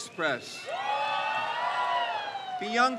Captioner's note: crowd cheers